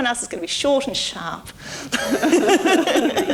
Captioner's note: laughter